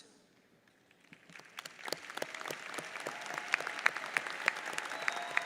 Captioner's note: audience applauds